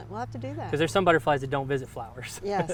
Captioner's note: laughs